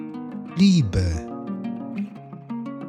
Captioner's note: german